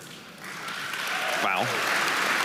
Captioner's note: audience applauding